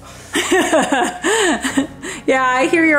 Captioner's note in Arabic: أمي تضحك